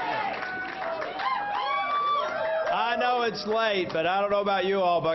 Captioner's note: applause